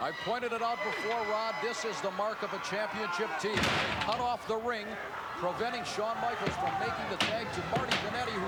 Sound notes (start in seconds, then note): 3.6 bodies thuds